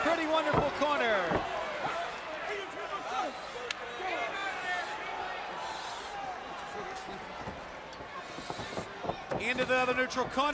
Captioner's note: crowd chattering